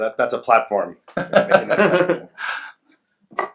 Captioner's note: laughs